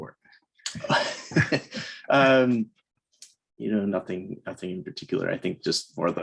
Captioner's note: chuckles